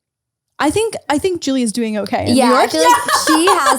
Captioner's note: laughs